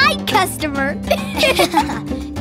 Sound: laughing

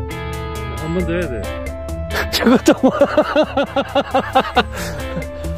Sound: laughs

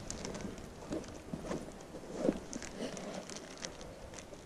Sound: snack wrapper crinkling

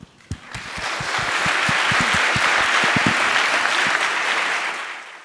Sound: applause

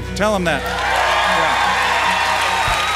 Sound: applause

